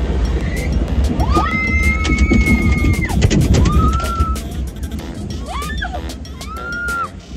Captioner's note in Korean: 비명이 천장을 뚫을 기세